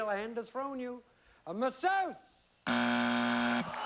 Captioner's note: buzzer